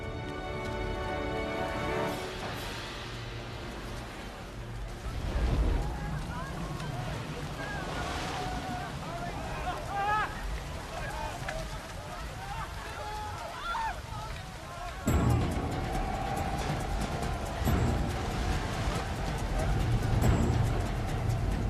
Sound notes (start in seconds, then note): 6.7 dramatic music; 14.5 yelling; 15.0 dramatic music